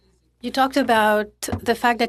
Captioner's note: speaking French